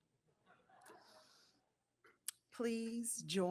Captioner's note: audience chuckles